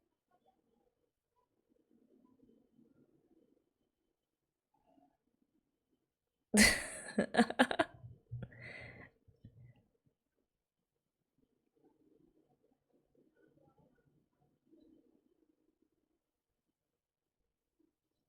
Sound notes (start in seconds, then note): 6.6 laughs